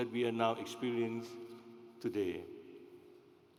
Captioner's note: none